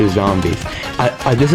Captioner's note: inhales Oxygen